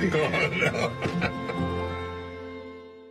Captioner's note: chuckles